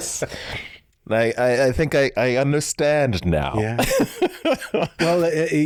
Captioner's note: chuckles